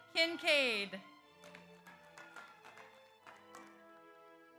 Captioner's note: audience applauds